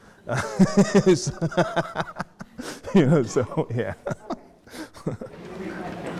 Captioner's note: laughing